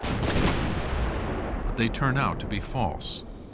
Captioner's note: gunshots